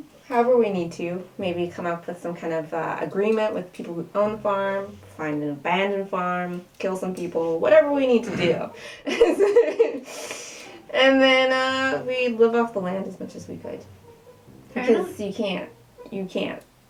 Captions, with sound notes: however we need to. Maybe come up with some kind of agreement with the people who own the farm, find an abandoned farm, kill some people - whatever we need to do. - (snort) - (laughter) And then, uh... we'd live off the land as much as we could. - Right on. - Because you can't - you can't...